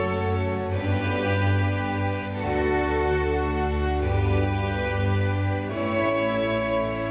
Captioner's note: none